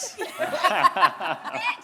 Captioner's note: all giggling